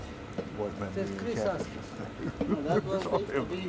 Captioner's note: chuckles